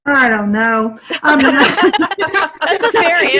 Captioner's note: laughter